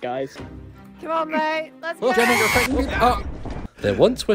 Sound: screams and dies

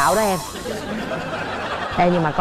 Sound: audience laugh

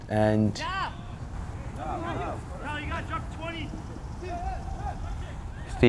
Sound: players talking and yelling

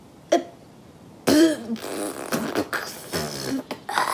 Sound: H2O spits

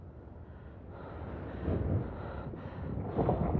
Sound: heavy breathing; muffled thunder rumbling continues

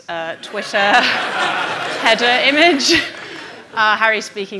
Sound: audience laughing

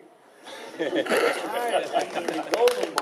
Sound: laughing

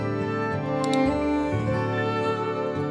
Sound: uplifting instrumental music; clicking; uplifting instrumental music

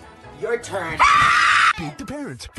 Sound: mom screams

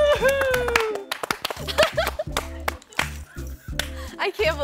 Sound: participants clapping

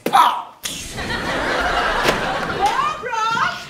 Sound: audience laughs

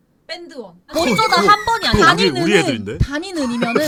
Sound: arguing

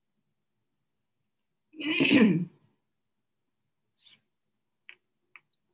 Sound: clears throat

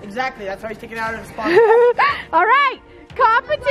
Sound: laughs

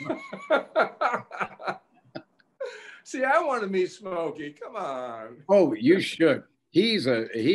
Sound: laughing

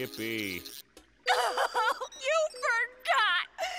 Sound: sobbing

